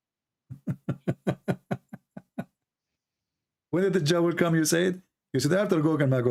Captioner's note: Ketawa